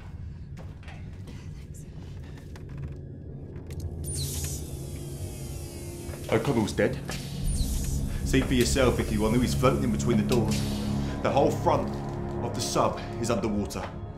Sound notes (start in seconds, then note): 2.4 ominous music; 4.0 door hissing